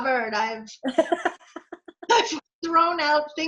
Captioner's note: laughing